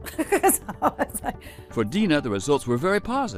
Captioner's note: laughs